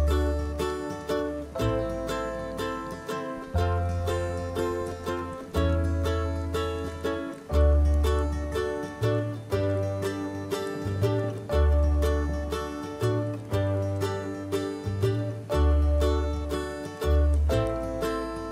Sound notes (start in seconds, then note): 1.2 snow falling